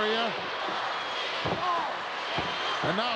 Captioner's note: head thuds